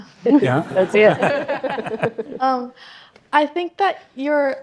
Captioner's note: audience laughing